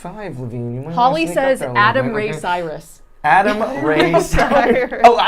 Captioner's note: laughing